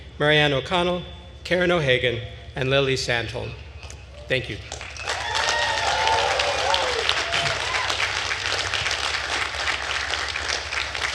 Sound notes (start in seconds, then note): 4.7 attendees cheering and applauding